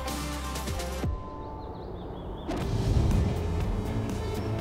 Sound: birds chirping

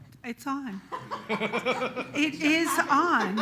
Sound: all laughs loudly

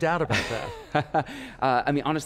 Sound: laughing

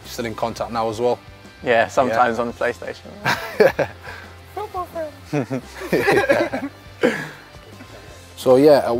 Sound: laughs

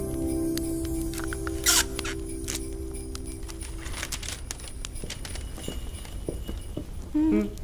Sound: fire crackling; gift wrapping sounds; people Humming

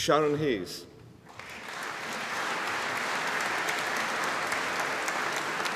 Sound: audience applauding

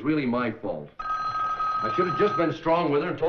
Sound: phone ringing

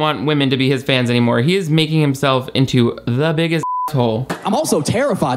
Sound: beep

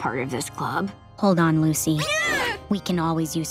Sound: shrieking

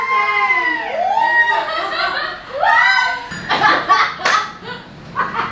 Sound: joyous laughter

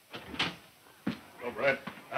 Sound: door opening

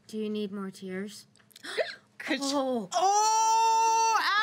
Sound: girl hiccups

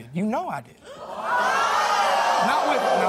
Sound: audience gasps

